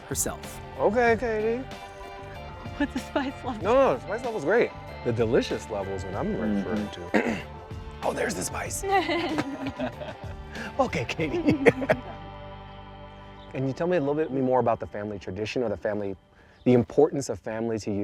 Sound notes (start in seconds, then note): 7.0 clears throat; 8.0 both laugh; 12.1 laughs